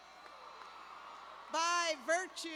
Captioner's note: cheers